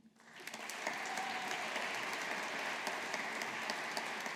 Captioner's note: audience applauding